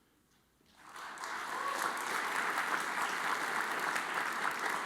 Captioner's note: audience applauds